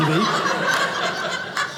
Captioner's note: audience laughing